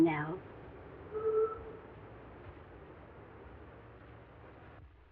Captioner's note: horn honking